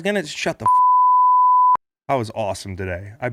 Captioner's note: beep